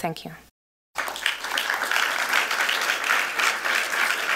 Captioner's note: applause